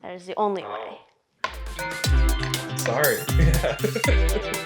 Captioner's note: laughs